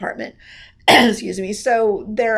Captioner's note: coughs